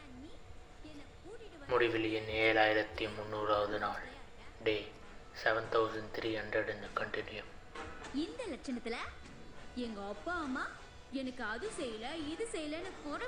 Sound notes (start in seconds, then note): 1.6 recording M7300 starts playing on phone